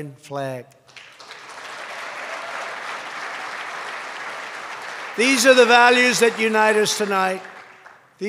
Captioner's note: applause